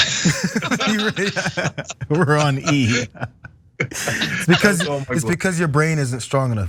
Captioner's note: laugh